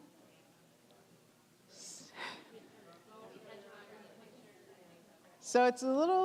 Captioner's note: general chatter